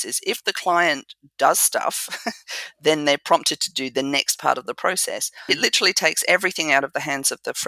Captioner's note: laugh